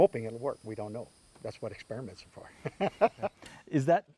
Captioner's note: laughs